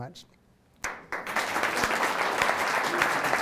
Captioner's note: applause